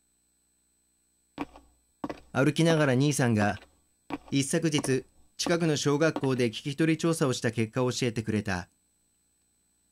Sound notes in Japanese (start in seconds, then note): 1.2 足音：コツコツコツ